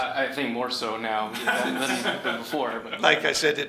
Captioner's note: laughing